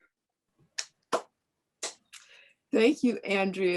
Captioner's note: clapping